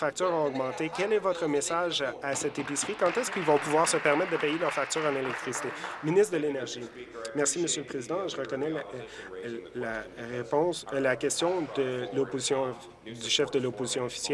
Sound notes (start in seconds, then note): 7.1 applause